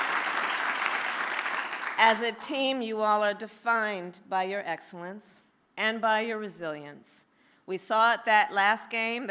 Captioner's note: laughter and applause